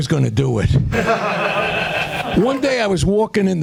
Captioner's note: laughter